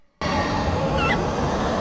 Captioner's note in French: petit cri de terreur